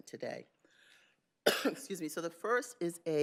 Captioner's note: coughs